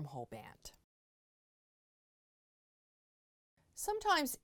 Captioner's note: no Sound Present